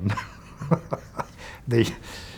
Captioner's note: laughs